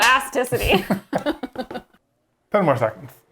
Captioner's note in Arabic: كلاهما يضحك